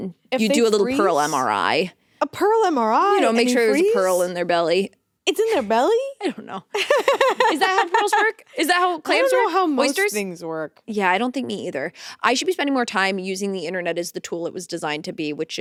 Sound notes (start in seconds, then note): 6.7 laughing